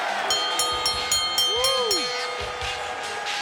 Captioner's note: bell rings; upbeat music